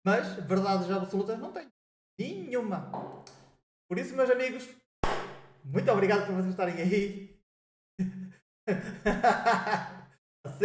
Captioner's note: laughs